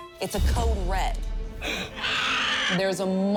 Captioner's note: Buddy gasps; bird squawks